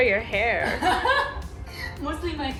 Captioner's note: laughing